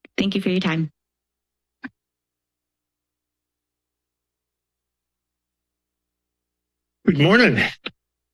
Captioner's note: silence; silence